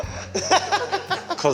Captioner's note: laugh